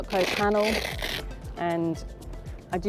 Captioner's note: velcro separating